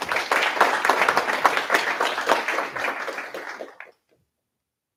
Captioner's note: applause